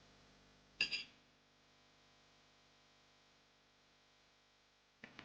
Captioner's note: spoon clattering